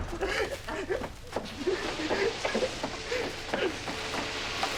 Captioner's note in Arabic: تبكي